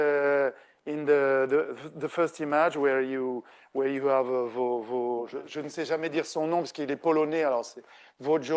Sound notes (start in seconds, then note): 2.0 speaking French